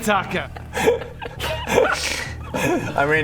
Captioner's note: surprised laugh